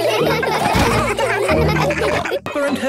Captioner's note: all laughing; Steven giggles